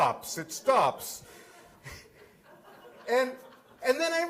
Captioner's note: laughter